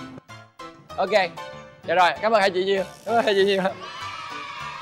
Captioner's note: cheering sound